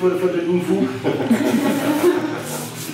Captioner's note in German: alle lachen